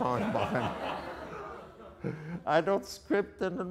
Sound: audience laughter

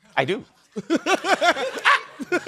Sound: chuckling

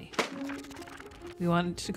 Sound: pages flipping

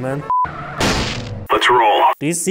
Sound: crash

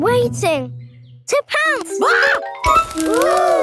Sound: screams

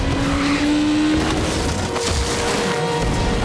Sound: crashing

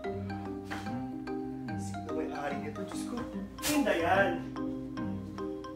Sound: sniffed

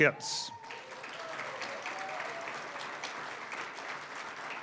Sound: applause, cheering; applause

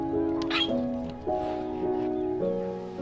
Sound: squeal

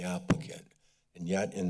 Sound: mic sounds

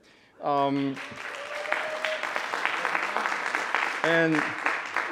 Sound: audience applauding

